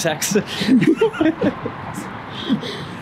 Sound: laughs

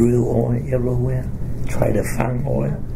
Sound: none

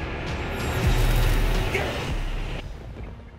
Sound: yells; eerie music

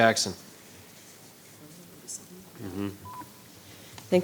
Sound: member murmurs

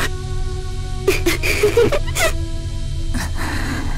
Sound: chuckle

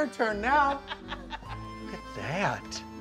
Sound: laughing

